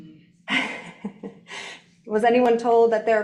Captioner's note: chuckling